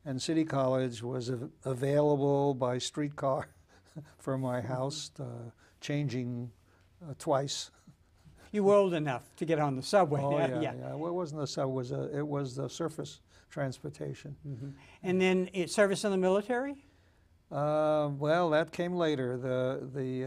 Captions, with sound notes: And City College was available by street car (laughs) from my house, changing twice. - You were old enough to get on the subway. - Oh, yeah, yeah. Well, it wasn't the subway. It was the surface transportation. - And then you serviced in the military? - Well, that came later.